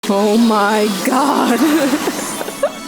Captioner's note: electricity sounds; laughing